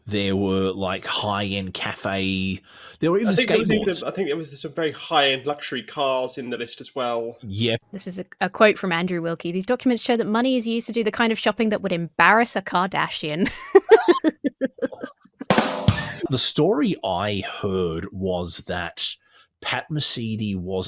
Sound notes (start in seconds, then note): 13.4 laughs; 15.4 drum fill plays